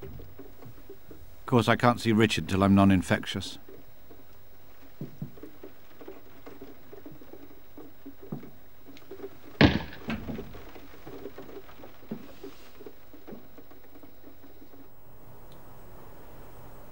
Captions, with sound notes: Of course, I can't see Richard till I'm noninfectious. (door closing)